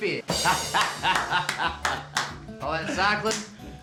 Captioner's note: clapping, laughing